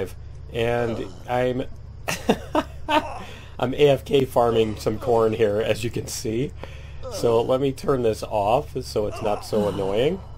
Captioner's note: laughs